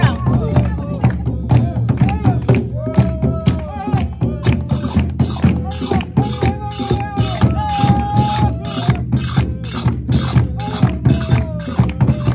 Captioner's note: drums beating; claps